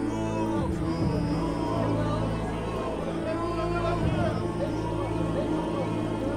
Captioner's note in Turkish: Yuhalama sesleri